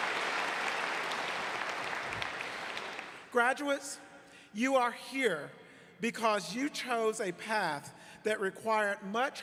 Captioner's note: applause